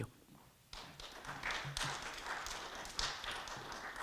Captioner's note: audience clapping